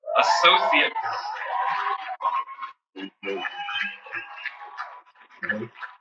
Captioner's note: cheers and Applause